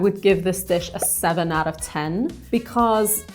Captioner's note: number pops